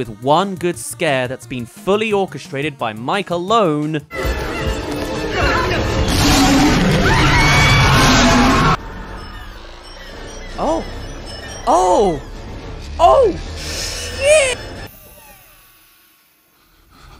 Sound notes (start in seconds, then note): 5.8 rooar; 9.0 ding ding ding